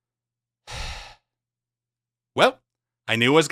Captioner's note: sigh